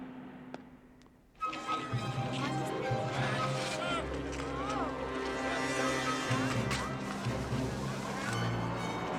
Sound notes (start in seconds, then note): 3.4 indistinct chatter